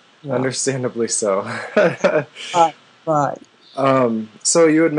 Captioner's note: laughter